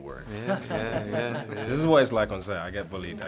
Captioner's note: laughing